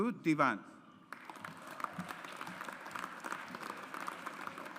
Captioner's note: audience applauds